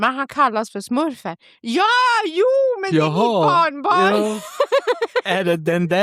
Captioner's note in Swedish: skratt